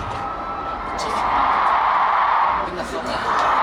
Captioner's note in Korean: 공연 내내 뜨거운 열기에 절로 나오는 감탄